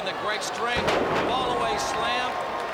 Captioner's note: crowd chatter